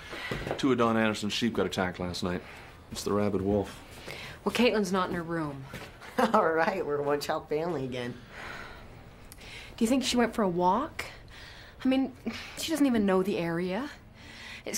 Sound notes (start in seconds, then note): 6.2 chuckles